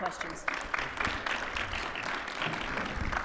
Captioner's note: audience applauding